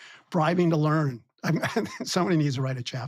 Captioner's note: laughs